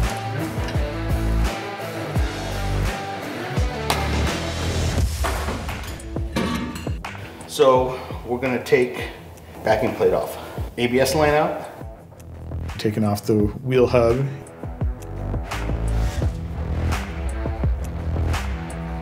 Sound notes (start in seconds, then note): 0.1 background music swells; 3.7 dead-blow smacks rotor; 5.7 metal rattling; 15.3 background music swells